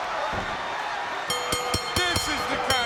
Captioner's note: bell ringing